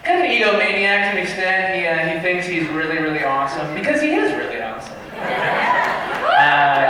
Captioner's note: laughter